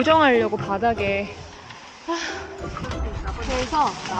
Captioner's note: sigh